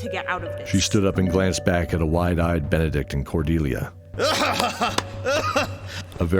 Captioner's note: clapclaclap